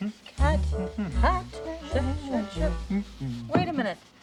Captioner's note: both humming